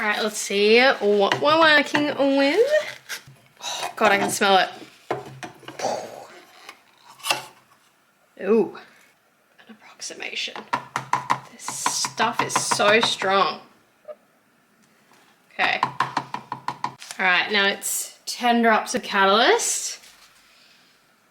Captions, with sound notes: Alright let's see what we're working with. Oh god, I can smell it! Puhhh *lid pops open* Ohh An approximation *tapping sounds* This stuff is so strong! Okay *more tapping* Alright, now it's 10 drops of catalyst.